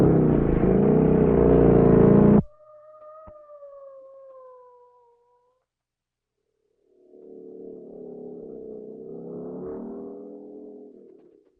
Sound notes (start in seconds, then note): 0.0 motor rumbling; 3.0 distant siren alarming; 7.3 distant motor buzzing